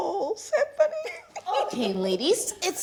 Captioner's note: laughing